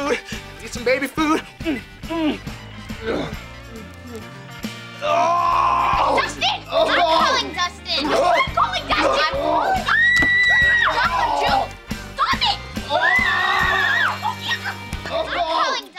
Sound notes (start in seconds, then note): 8.9 screaming; 12.8 screaming